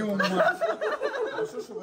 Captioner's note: laughter